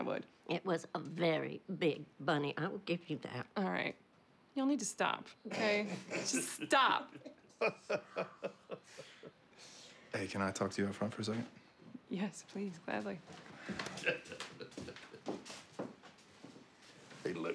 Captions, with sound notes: AND IF I HAD TO DO IT AGAIN I WOULD. IT WAS A VERY BIG BUNNY, I WILL GIVE YOU THAT. ALL RIGHT, Y'ALL NEED TO STOP OKAY? JUST STOP. [LAUGHTER] HEY CAN I TALK TO YOU OUT FRONT FOR A SECOND? YES PLEASE, GLADLY. [CHUCKLING]